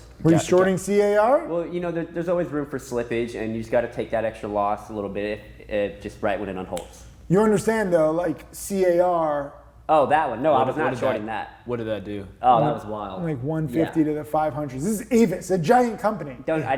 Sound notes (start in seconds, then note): 6.7 finger snaps